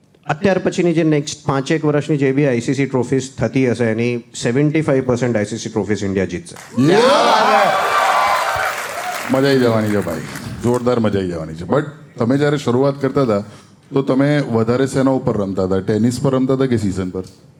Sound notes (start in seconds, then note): 6.6 crowd applauding